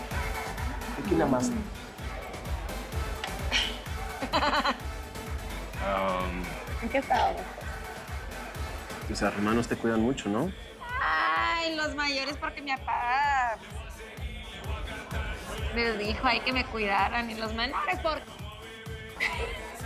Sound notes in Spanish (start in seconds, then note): 4.1 Risas